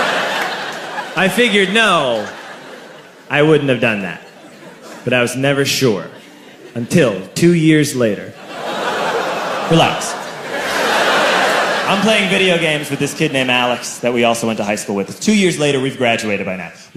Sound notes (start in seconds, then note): 10.0 loud fucking laughter